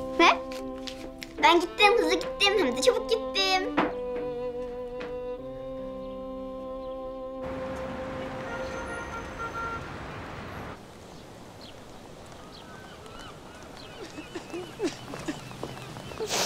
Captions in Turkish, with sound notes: Ver. Ben gittim, hızlı gittim, çabuk gittim. (Sokak gürültüsü)